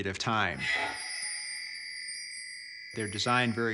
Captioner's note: chiming